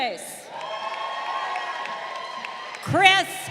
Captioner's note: crowd cheering